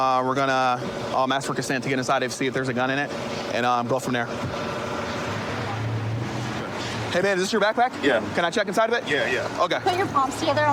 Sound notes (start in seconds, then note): none